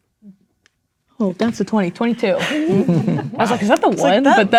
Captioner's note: players laughing